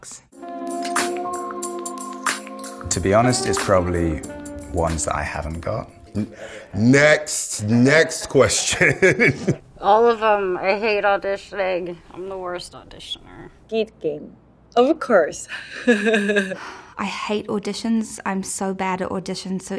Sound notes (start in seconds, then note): 0.3 soft music; 8.5 laughs; 15.5 laughs